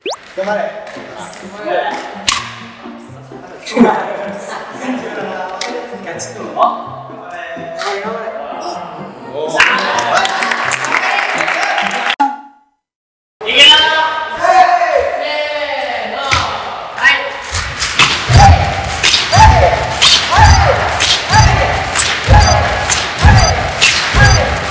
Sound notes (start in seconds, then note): 9.6 cheering